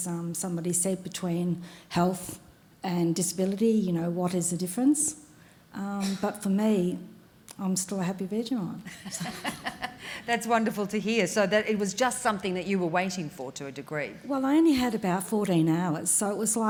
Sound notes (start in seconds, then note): 8.9 laughing